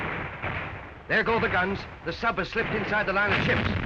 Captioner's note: cannon fire